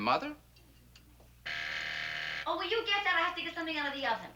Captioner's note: doorbell rings